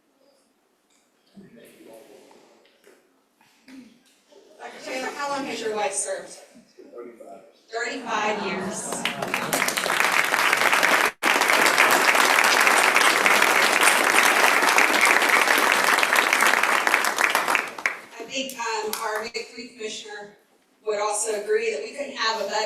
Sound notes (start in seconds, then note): 8.8 applause